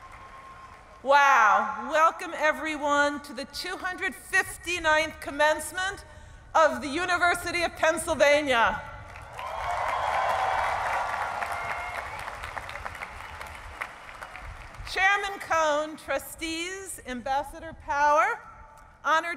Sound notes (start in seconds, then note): 0.0 cheering and applause; 9.2 audience cheering